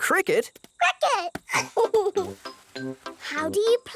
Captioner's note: giggles